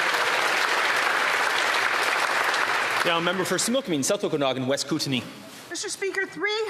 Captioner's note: applause